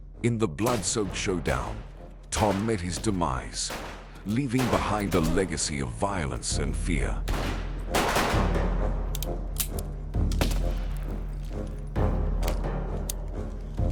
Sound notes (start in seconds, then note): 7.2 guns banging; 9.0 empty gun clicking; 10.7 suspenseful music